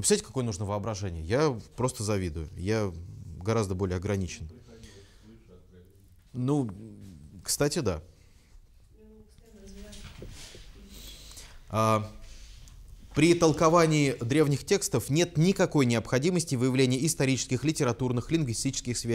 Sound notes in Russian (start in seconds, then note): 7.7 человек говорит на заднем плане